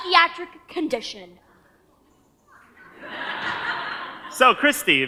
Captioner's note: audience laughs